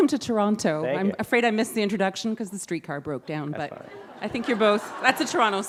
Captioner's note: laughter